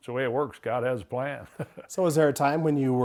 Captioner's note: laughs